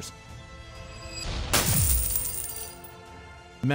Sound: explosion and coins jingling

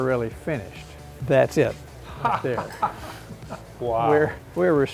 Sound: laughs

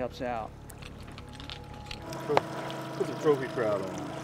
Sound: trolling motor humming

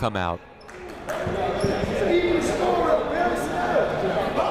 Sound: shouting

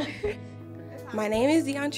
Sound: girls laughing

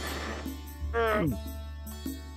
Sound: gulps

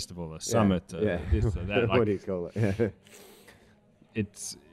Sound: laughs

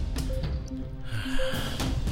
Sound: Dracula hisses and Bites Neck

